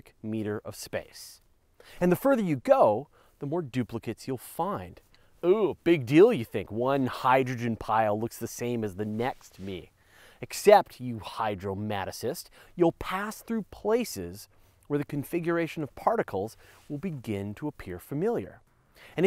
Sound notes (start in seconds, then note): 5.1 sarcastically